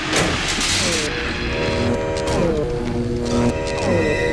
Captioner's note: electronic buzzing